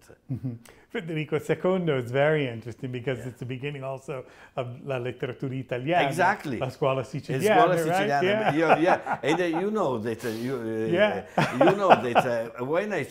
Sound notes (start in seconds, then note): 7.4 laughs